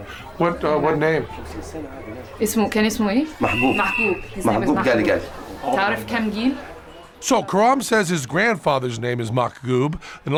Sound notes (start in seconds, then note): 1.9 non-english speech; 5.1 non-english speech